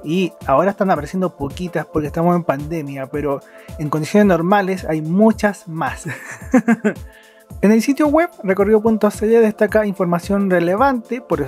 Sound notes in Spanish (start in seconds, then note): 6.0 risas